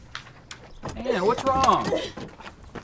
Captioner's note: Anne crying